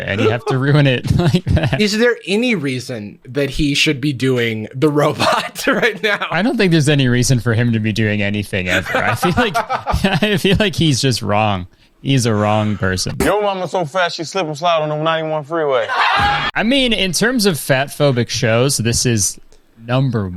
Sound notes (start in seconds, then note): 8.6 laughs; 15.8 group laughs